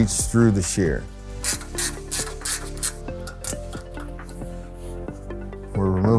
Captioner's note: ambient music; ratcheting